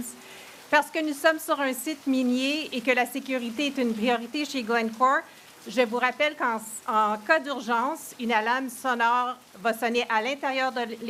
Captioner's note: speaking in French